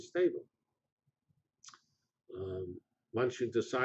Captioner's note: pause